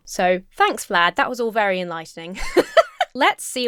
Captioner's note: laughs